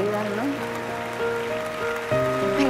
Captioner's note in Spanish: Aplausos